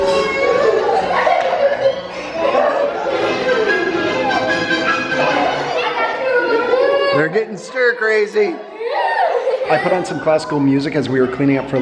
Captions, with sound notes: (kids laughing) (upbeat music) - They're gettin' stir crazy! (kids laughing) I put on some classical music as we were cleaning up